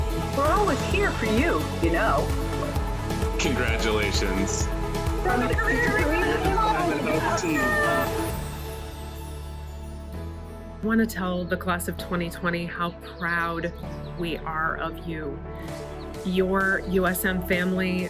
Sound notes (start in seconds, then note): 5.2 cheering